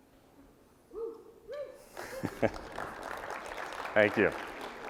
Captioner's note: applause